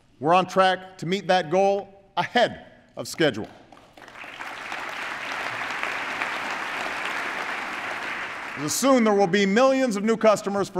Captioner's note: applause